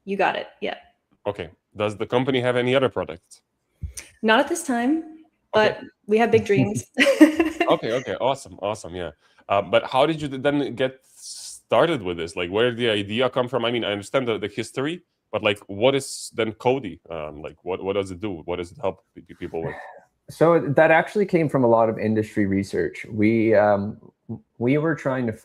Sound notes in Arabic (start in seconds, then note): 6.3 ضحك